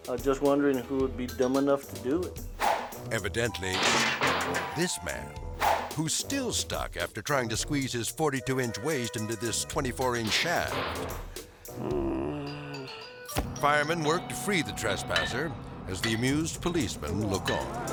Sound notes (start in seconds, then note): 2.6 air swoosh; 3.8 venting crashing; 11.7 crook moaning